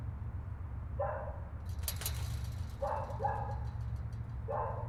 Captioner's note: dog barking continues